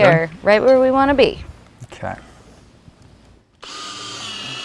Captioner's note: drill whirring, no additional audio